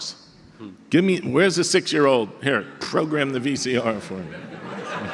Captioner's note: audience laughter